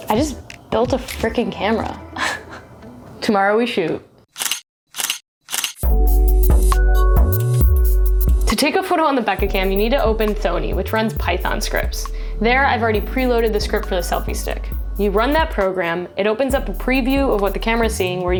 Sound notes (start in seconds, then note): 5.5 camera shutter clicking; 5.8 relaxing music